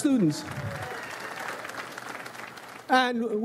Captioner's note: audience applauds